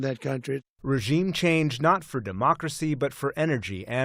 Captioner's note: voice-over